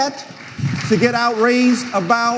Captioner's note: some audience members applauding